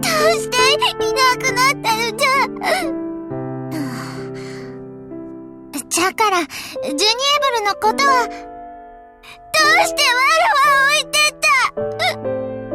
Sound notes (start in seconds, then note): 3.8 bated breath